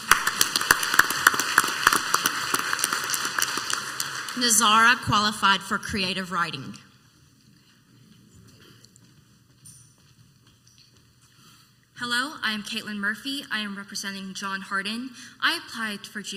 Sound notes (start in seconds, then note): 0.0 clapping; 10.1 footsteps